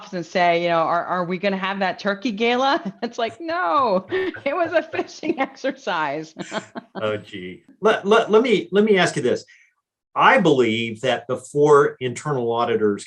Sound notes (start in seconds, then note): 6.2 laughs